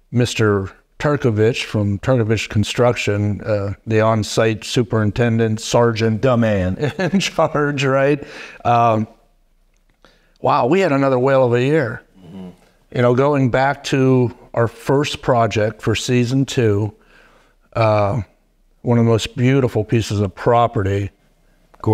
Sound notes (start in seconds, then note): 6.8 chuckling